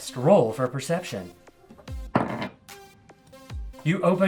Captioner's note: dice Roll - Low